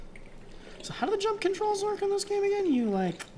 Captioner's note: none